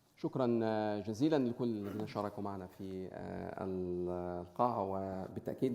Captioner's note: speaking in foreign language